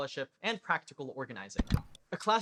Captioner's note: click